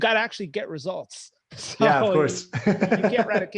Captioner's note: laughing